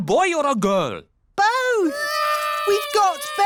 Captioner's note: babies cry